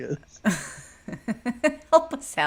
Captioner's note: laughs